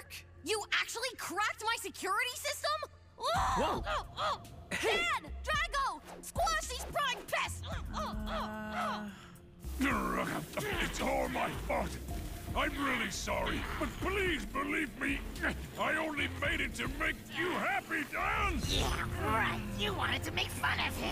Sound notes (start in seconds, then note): 7.9 Juno grunting; 7.9 grunting